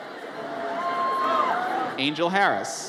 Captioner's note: audience cheers